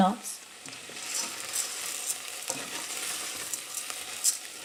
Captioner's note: sizzling